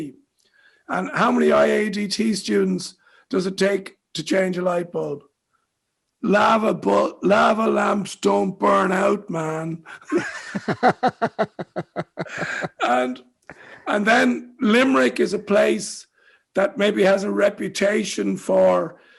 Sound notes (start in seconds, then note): 9.8 laughs